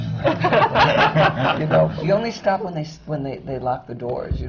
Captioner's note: laughter